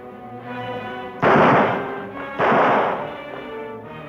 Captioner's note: gunshots banging